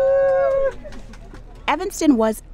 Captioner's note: tour-goer clapping